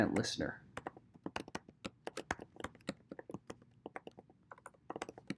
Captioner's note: keyboard clicking